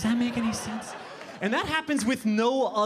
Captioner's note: audience laughing